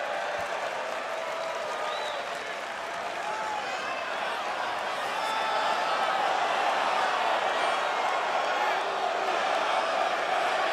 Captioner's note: crowd cheering